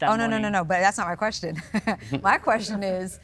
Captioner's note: chuckles